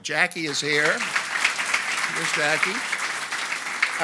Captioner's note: audience applauds